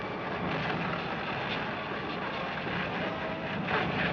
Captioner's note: steam rumbling